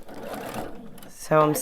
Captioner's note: machine whirs